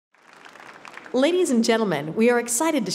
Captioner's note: applause